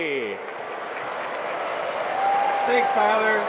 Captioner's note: crowd cheers